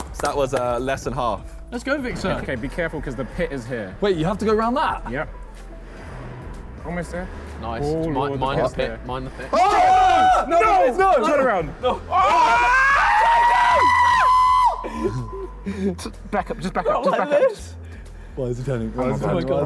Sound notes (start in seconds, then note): 9.7 all shouting; 12.0 all shouting